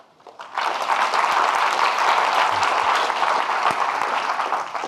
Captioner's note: audience clapping